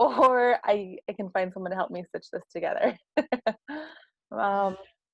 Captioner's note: laugh